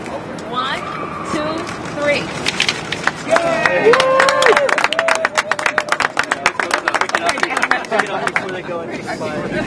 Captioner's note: applause